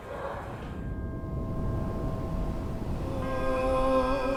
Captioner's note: air whooshing; people chanting melodically